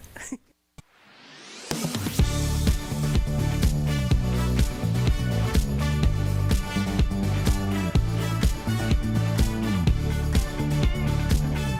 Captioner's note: laughter